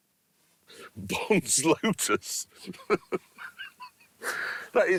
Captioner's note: laughing